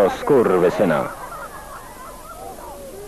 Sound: laughter

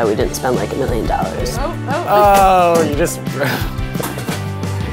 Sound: laughs

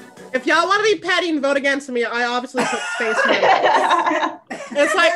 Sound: everyone laughs

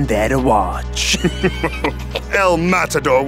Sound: both laugh

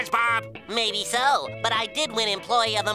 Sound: none

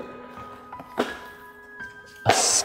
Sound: box clatters

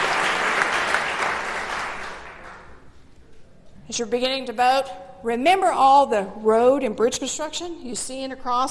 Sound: applause

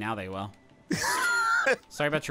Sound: laughing

